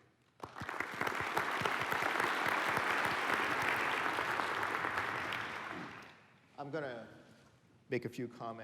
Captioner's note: applause